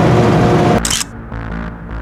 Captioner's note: photo click